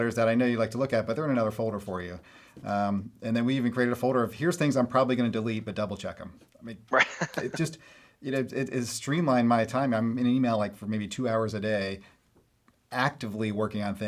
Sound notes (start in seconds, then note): 6.9 Brad laughing